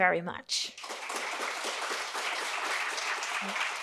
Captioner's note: applause